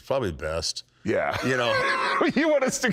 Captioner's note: laughs